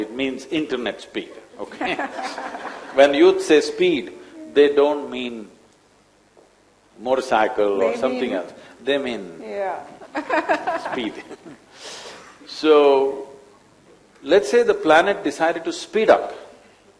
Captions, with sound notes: it means internet speed, okay (Laughter)? When youth say speed, they don’t mean motorcycle or something else, they mean (Both laugh) speed. So, let’s say the planet decided to speed up.